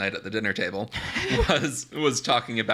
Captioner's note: laughs